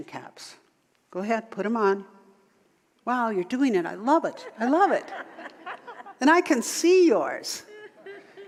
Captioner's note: audience laughter